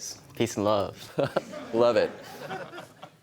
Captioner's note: chuckles